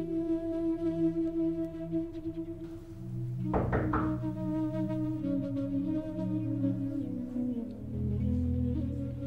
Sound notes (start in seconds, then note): 3.5 knock on door